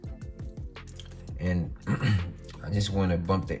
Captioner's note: clears throat